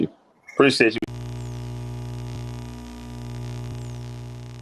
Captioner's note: static